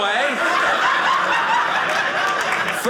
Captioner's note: audience laughing